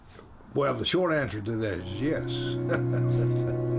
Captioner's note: chuckles